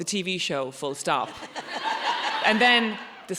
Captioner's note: audience laughs